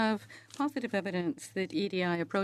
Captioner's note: speaking French